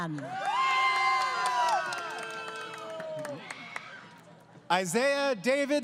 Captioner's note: crowd Cheering